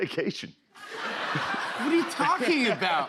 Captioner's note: laughter